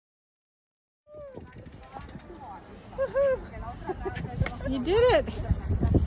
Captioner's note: chatter